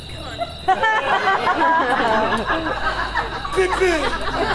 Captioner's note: audience laughs